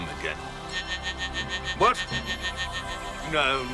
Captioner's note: phone buzzing